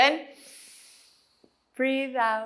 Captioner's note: inhales